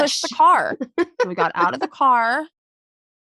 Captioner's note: laughing